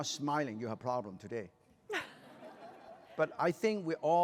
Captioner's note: laughter